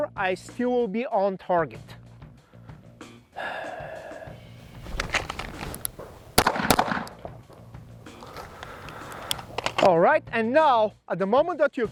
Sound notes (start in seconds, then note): 3.3 exhales briefly; 4.7 holster rattling; 6.4 gun popping